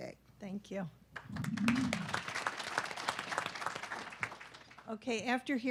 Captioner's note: audience clapping